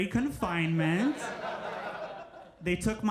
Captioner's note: crowd laughs